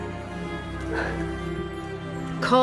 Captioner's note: annaline exhaling